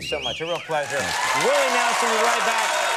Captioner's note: audience cheering